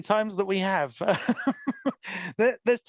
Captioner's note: laughs